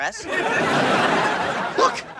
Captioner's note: audience laughing